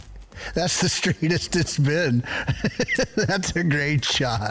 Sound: chuckles

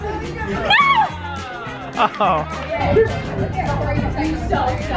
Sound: yells

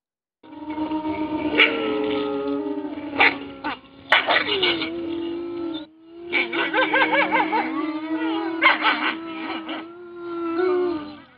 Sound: wolves howling

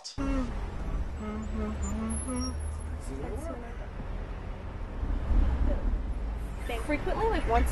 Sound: yawning

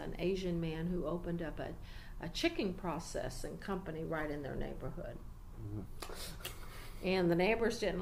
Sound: laughs quietly

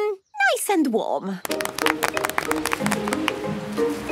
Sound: applause

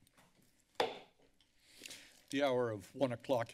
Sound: silence; hits the gavel

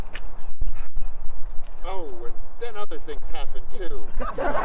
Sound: laughter

